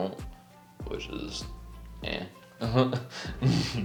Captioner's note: laughs